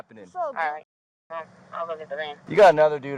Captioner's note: radio chatter